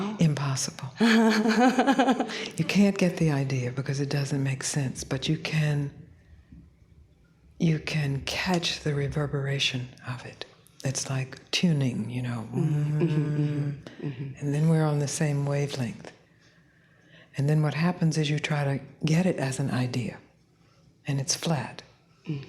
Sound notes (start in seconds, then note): 12.5 mmmm